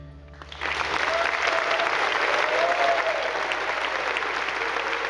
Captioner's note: attendees applauding